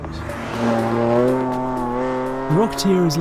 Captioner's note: engine roaring